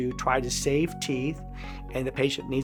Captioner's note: inhale